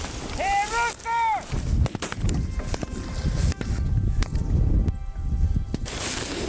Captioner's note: gunfire bangs